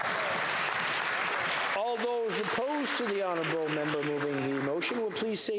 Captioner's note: applause